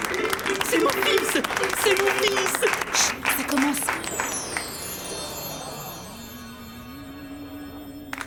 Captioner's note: applause